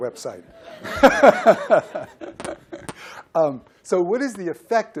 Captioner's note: laughter